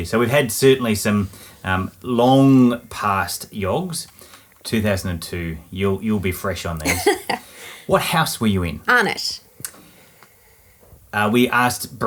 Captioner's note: laughing